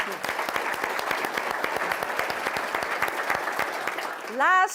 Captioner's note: audience applauds